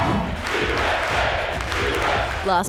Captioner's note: cheering and applause; people chant